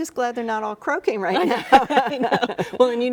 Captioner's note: both laughing